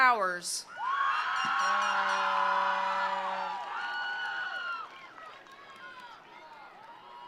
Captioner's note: attendees cheering; attendees applauding